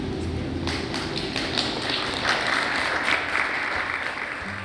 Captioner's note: Aplauso; applause